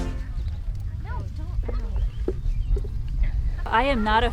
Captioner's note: pickers chattering